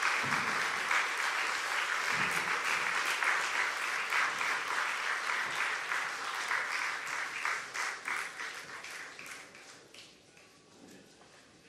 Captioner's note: cheers and applause